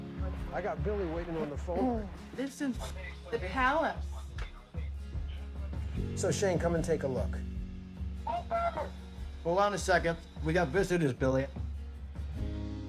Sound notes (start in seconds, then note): 8.2 digital chirp